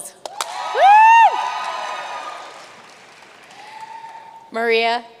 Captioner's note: audience cheering and applauding